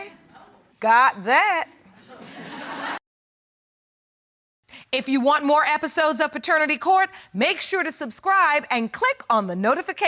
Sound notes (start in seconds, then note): 2.0 audience laughing